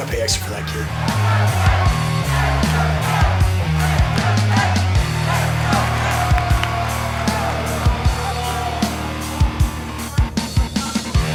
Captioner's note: crowd cheering; rock music playing